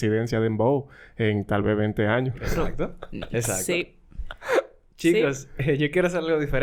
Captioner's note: laughs